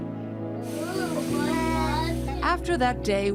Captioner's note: children babbling